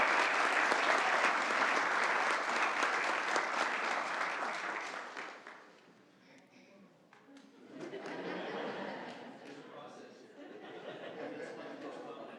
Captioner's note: applause